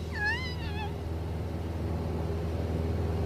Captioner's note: whimpering